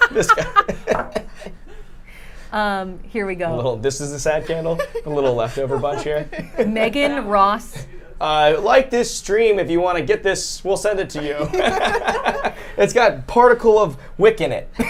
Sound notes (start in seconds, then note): 0.0 group laughs; 11.2 group laughs